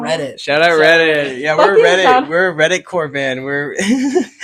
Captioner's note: laughs